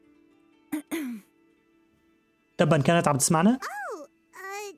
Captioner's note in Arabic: آري تنقية الحلق